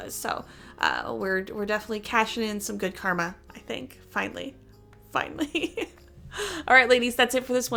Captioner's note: chuckle